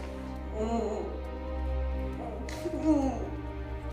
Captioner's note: Meg grunting